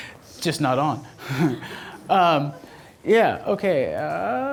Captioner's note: laughs